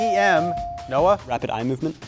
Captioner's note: buzzer chimes